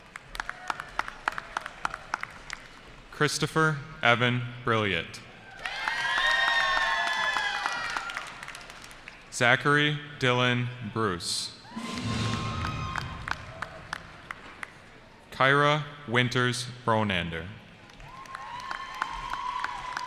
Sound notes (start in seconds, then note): 0.0 applause; 5.4 cheering; 11.6 cheering